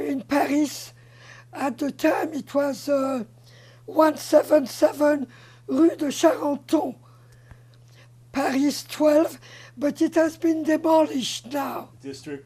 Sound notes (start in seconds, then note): 6.3 french